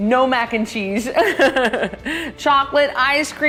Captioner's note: laughs